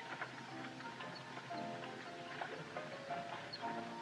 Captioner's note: none